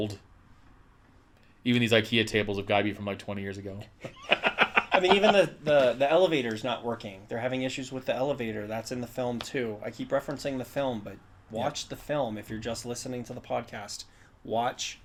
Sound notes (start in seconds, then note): 6.9 laughs